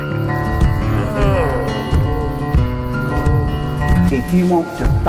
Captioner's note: groaning; twangy guitar music